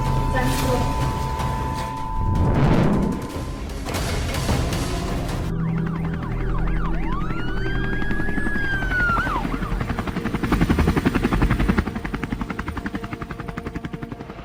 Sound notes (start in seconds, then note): 5.2 sirens blaring; 5.7 helicopter blades whirring